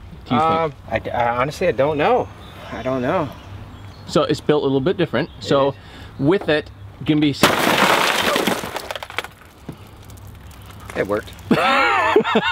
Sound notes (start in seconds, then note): 7.4 glass shattering; 11.4 man laughing